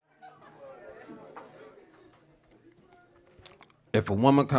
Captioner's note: audience chattering